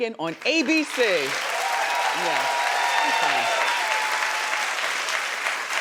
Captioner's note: audience applauding